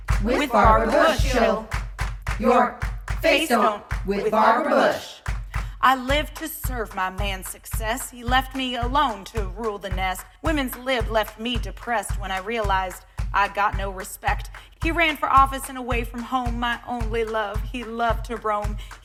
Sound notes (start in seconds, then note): 0.0 clap clap clap; 2.9 clap clap; 3.9 clap